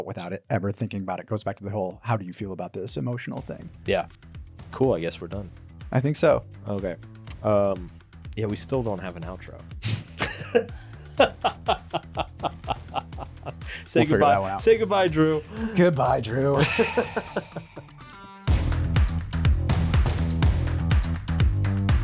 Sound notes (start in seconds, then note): 10.2 laughs; 16.4 laughs; 19.3 upbeat music